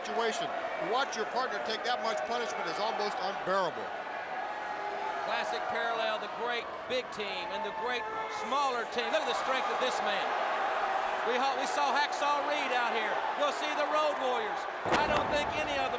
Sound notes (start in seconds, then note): 12.9 crowd cheering